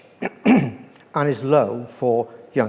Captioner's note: clears throat